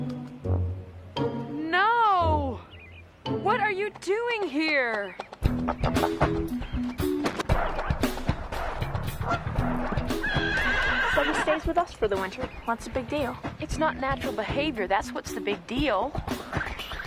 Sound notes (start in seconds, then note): 5.6 goose quacks; 9.8 horse neighs